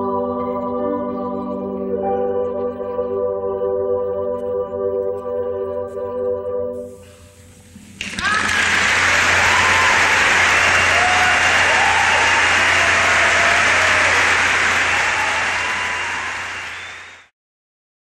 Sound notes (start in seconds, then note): 0.1 gentle piano music; 8.0 audience applauds and cheers